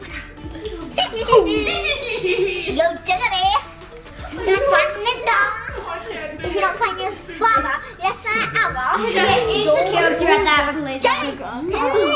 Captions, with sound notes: Hehehehe! - Hehehe! (child babbling) (Family tittering) - If you don't find your father in less than an hour, you'll lose the game, man!